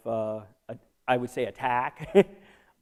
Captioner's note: laughter